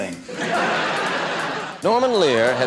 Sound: laughing

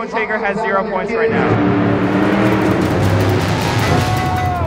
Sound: truck engine revs

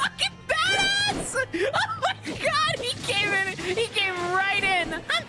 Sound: laughing

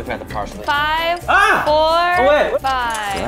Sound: screams

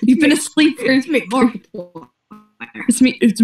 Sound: glitching

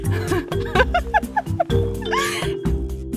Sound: laughter

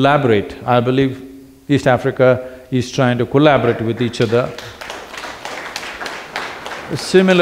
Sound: applause

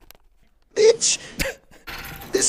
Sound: short Laugh

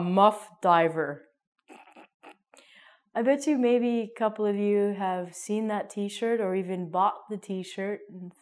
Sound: laughs

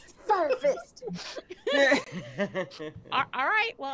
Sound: players laughing

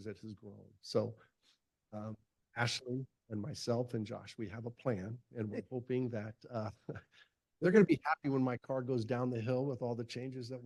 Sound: chuckle

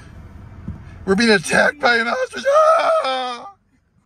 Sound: fake screams

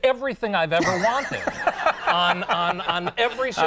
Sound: audience laughs

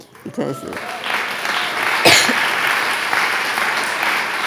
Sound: audience applauding

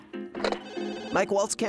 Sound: phone rings

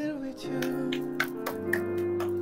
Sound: clap clap clap

